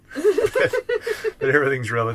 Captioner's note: laughing